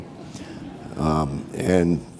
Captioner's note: audience laughing